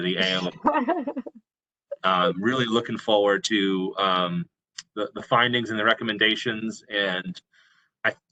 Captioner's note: laughter